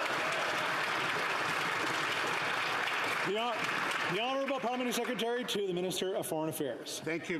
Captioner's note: some Applause